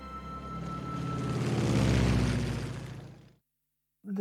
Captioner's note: plane roaring